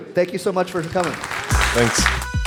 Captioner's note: applause